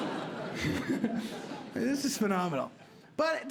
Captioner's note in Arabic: يضحك